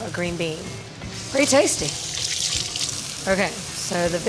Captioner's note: water running